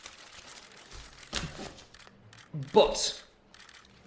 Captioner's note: papers shuffling